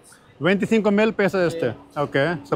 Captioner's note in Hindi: स्पेनिश में बोलना